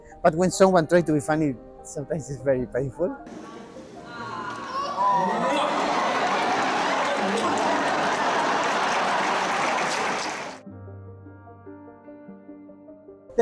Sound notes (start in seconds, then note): 4.1 kissing; 8.6 audience laughing